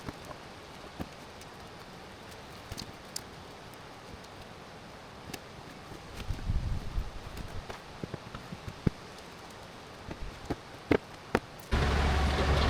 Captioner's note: metal clanking